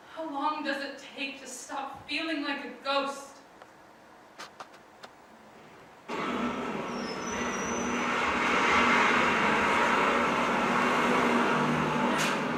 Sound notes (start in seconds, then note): 6.1 street sounds